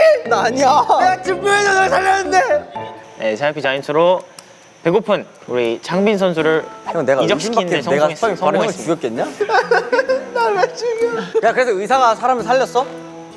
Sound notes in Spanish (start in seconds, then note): 1.0 Se pone a llorar porque tiene que dejar a Hyunjin